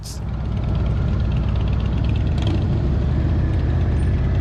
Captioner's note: engine rumbling